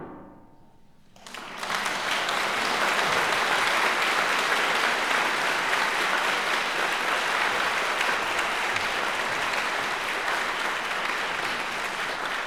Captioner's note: applause